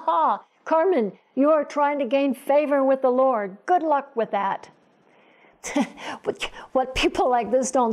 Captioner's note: chuckle